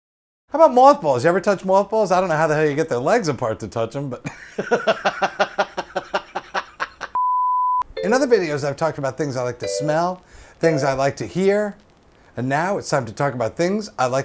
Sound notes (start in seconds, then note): 4.3 laughs; 7.2 beep